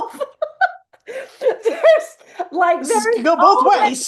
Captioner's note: laughs